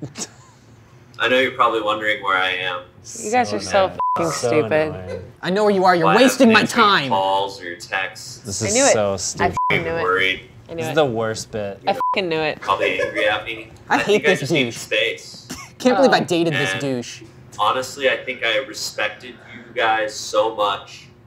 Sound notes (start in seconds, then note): 0.0 chuckling; 3.9 beep; 9.5 beep; 12.0 beep; 12.7 crew member laughing